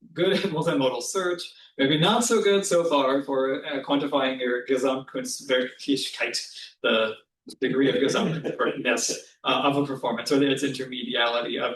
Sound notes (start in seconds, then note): 5.1 german